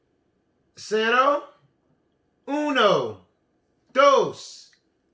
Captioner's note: speaking in foreign language